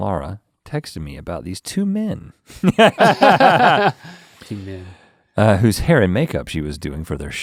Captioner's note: both chuckle